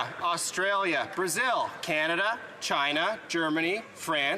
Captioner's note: some Applause